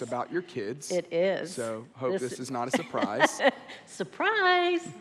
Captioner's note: laughs